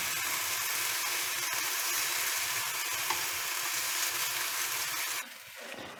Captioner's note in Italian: sfrigolare della padella